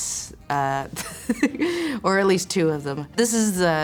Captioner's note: giggles